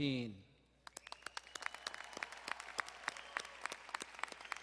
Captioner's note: audience applauding